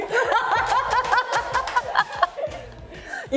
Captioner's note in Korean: 열여덟에 별안간 터진 웃음